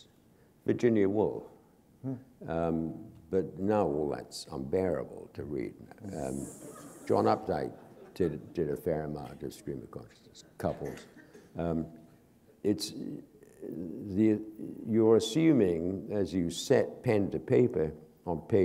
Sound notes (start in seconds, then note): 7.4 laughter